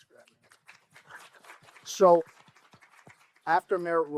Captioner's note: applause